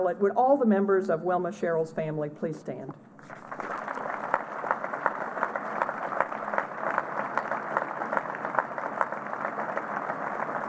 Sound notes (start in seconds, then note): 3.2 applause